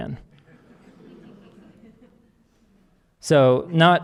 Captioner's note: audience laughing